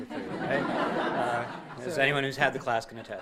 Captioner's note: audience laughing